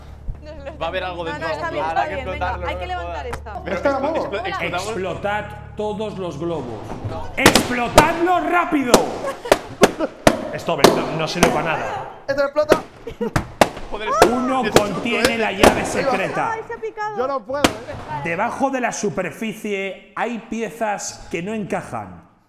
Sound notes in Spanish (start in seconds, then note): 7.3 Globos explotando